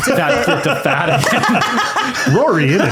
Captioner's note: laughing